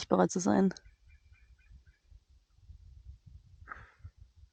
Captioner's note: eagle cry in the background